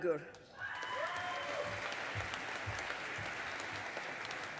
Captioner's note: audience applauding